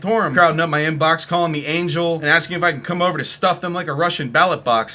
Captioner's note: none